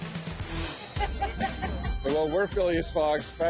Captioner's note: woman laughs